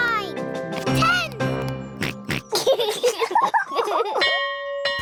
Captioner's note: oinks; both laugh; bell chimes